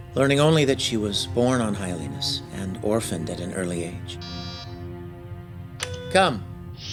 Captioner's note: door chime